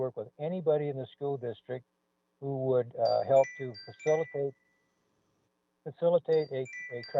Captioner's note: chime